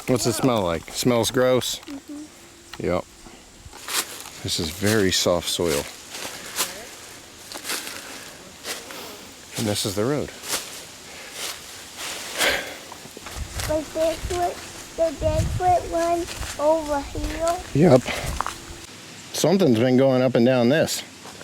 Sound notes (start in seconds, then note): 11.7 leaves rustling